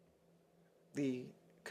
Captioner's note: speaking French